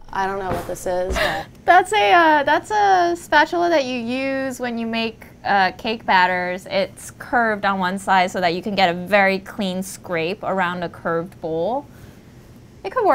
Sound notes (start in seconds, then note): 1.9 laughs